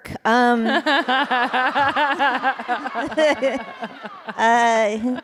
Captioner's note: laughter